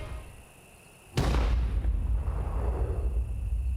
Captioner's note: gun fires